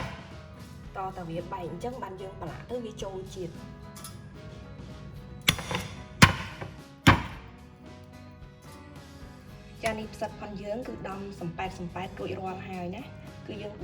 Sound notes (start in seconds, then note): 5.4 crushing sound